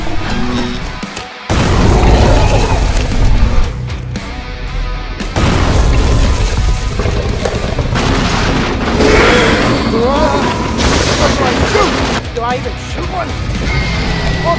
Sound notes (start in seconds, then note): 0.0 attacking sounds; 1.4 crashing sounds